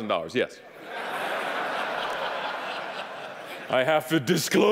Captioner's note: audience laughing